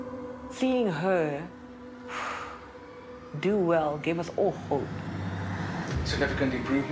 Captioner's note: exhales